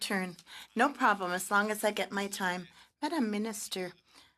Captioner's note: speaking French